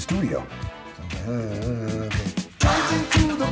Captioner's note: mumbling and humming